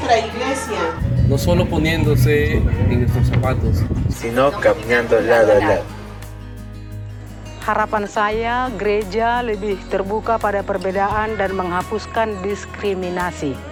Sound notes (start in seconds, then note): 0.1 partner speaking in foreign language; 3.0 partners speaking in foreign language